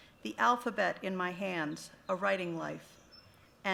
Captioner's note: none